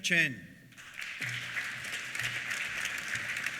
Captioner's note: applause